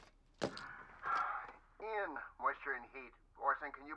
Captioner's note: sighs